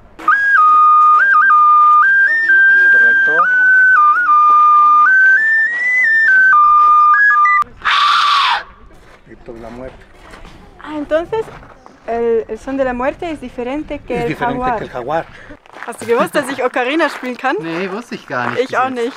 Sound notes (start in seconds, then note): 0.1 ocarina playing; 7.8 screaming; 10.0 in Spanish